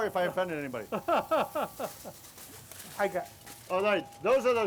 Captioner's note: laughs